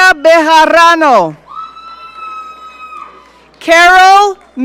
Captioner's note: audience cheering